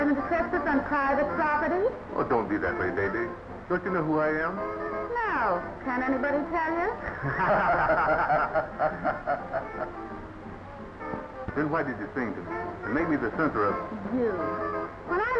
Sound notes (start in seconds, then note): 6.8 laughing